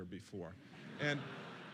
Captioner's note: laughter